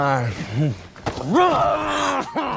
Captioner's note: screams